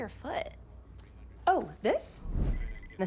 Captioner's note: boot beeps